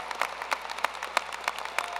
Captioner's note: cheers and applause